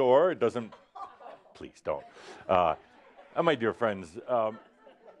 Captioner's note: more chuckles